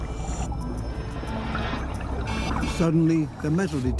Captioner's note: beeping